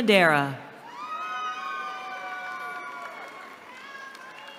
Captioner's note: cheering